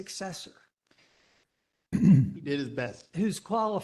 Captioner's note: cough